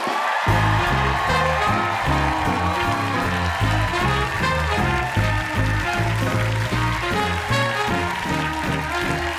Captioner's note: cheers and applause